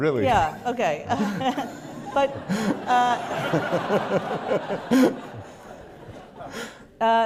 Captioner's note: laughter